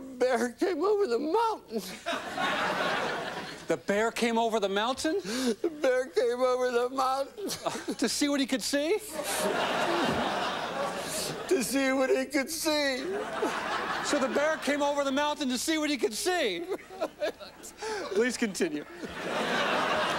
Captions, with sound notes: THE BEAR CAME OVER THE MOUNTAIN. THE BEAR CAME OVER THE MOUNTAIN? THE BEAR CAME OVER THE MOUNTAIN. TO SEE WHAT HE COULD SEE? TO SEE WHAT HE COULD SEE. SO, THE BEAR CAME OVER THE MOUNTAIN TO SEE WHAT HE COULD SEE? [SOBBING] YES. PLEASE CONTINUE.